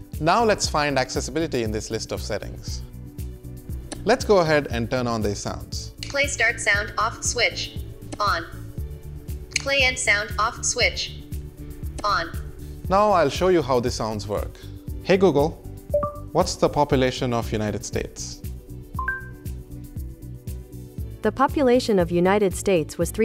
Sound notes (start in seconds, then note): 15.9 low beep; 19.0 high beep